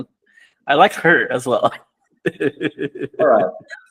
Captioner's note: laughs